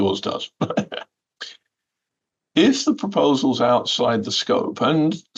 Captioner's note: laughter